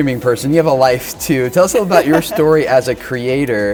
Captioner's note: laughs